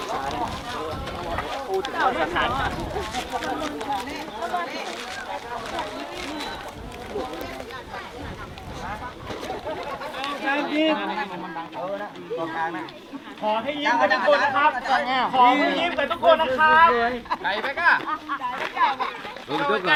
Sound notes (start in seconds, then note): 12.2 foreign language